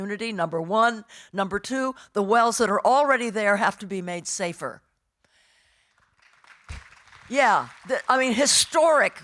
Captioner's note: audience applauding